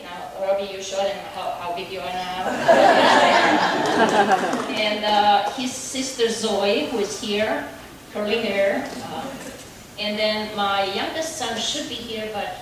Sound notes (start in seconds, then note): 2.4 audience laughing